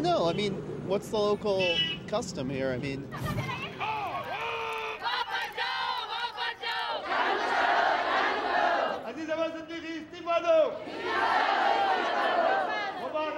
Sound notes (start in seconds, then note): 3.5 people shouting